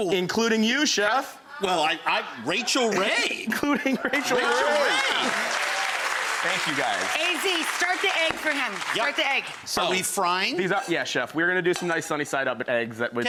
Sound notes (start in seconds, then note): 4.3 audience applauds